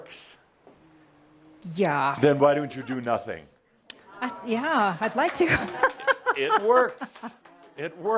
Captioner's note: she giggles